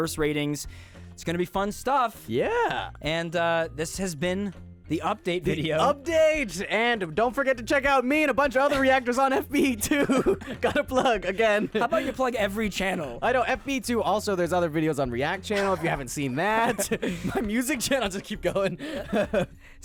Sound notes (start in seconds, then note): 8.5 laughing; 19.3 laughing